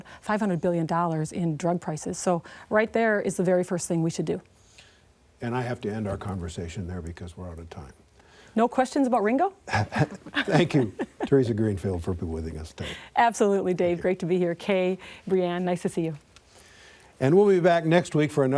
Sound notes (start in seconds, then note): 11.9 laughter